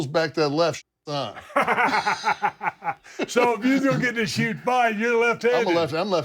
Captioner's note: laugh